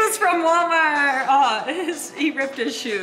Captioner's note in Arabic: يضحك